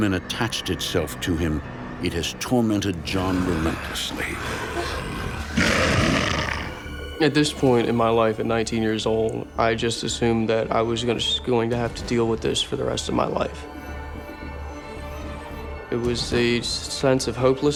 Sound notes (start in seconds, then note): 3.0 snarling and growling